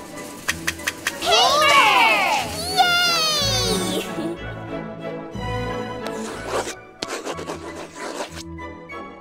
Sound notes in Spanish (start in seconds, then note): 6.0 sonidos de escritura